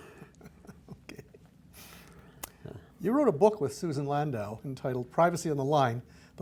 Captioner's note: laughs